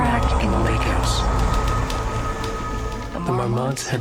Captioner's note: typewriter clattering